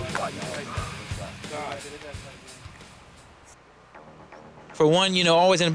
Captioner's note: sisighghs s